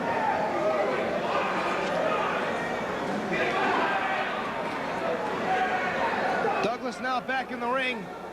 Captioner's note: crowd chatter